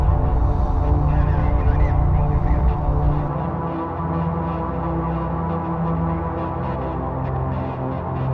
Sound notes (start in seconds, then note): 1.0 muffled radio chatter